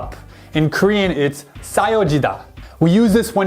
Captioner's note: speaking in Korean